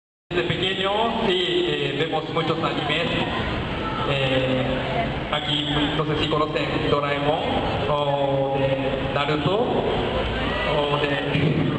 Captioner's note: scream of a crowd